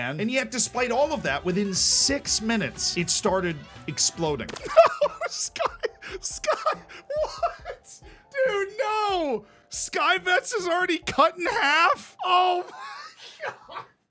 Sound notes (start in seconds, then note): 4.5 laughing hysterically; 12.2 laughing